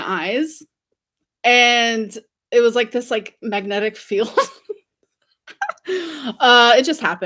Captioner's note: laughs